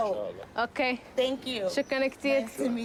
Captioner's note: non-english speech